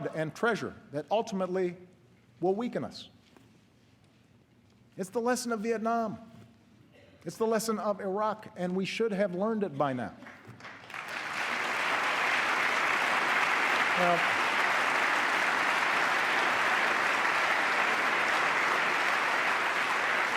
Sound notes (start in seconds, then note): 13.3 applause